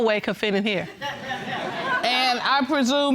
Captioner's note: audience laughing